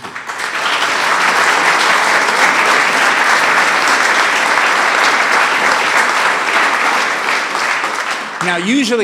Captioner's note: applause